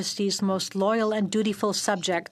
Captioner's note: speaking French